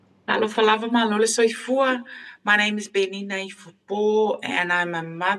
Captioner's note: speaking in foreign language